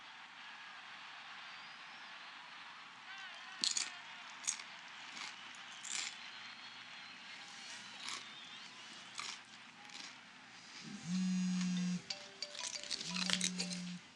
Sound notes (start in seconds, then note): 1.7 TV blaring; 1.7 crunching; 11.0 phone ringing